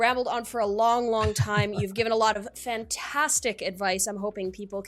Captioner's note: laughs